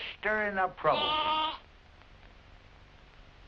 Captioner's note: bleating